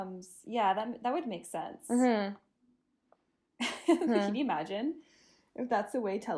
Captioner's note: giggles